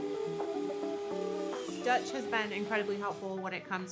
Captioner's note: machine whirs